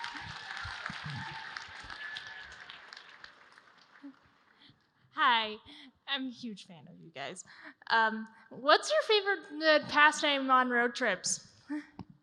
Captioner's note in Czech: smích